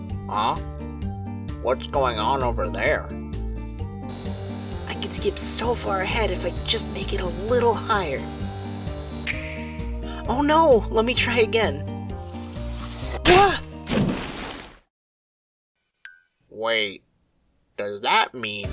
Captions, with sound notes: Huh? What’s going on over there? I can skip so far ahead If I just make it a little higher! (SNAP!) Oh no!! Let me try again! Wah! (splash!) Wait, does THAT mean?